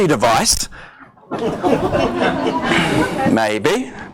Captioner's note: audience laughs